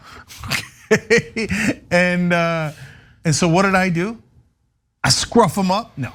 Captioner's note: laugh